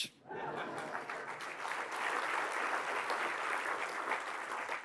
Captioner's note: applause